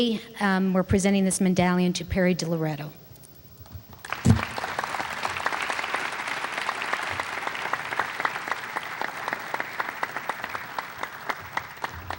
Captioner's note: applause